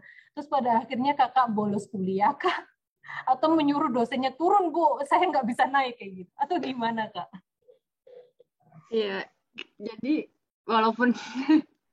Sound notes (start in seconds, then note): 2.5 laughter